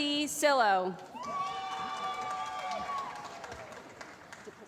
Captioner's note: applause